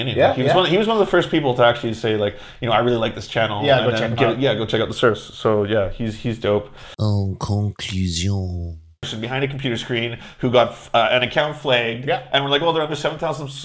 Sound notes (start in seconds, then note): 7.6 french Voice